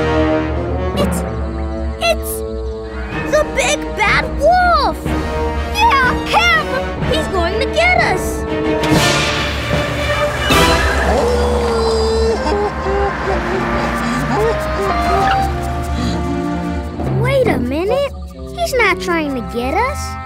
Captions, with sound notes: It's... it's... The Big Bad Wolf! Yeah! Him! He's going to get us! [howling] [crying] Wait a minute. He's not trying to get us.